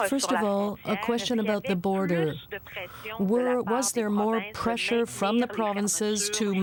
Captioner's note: speaking French